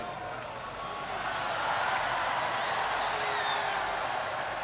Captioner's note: crowd cheering